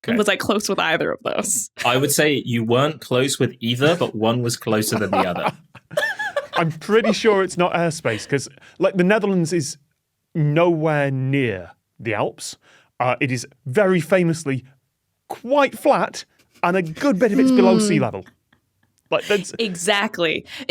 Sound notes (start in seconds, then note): 4.6 giggle